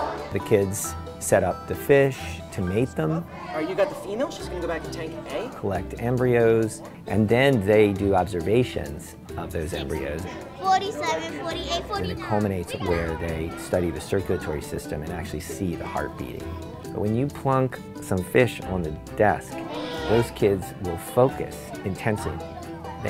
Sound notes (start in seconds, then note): 19.6 student gasps